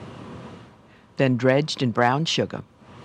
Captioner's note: voiceover